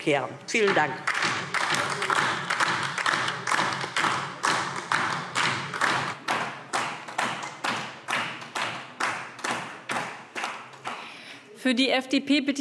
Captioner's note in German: Beifall DIE LINKE